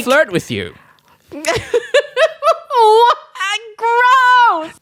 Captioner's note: laughs